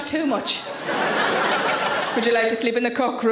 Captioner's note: audience laughs